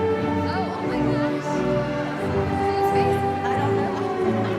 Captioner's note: chatter